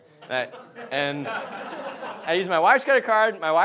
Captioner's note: audience laughs